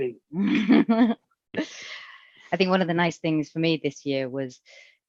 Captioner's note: laughs